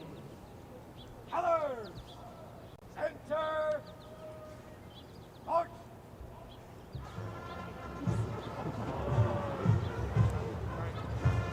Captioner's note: shouted commands and music